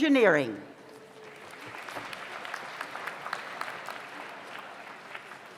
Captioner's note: audience applauds